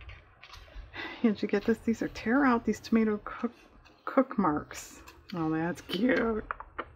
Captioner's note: sarcastically